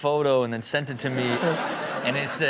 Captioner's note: audience laughing